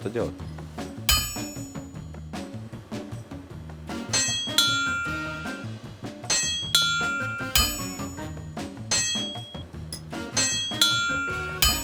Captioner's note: anvil ding